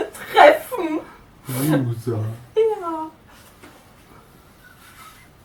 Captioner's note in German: Aus dem Off; lacht